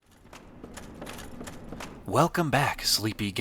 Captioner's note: armor jostles, heavy footsteps